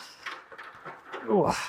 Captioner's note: ladder clattering